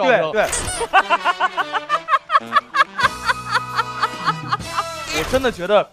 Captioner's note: hahahahahaha